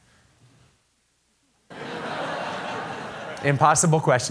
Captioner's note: laughter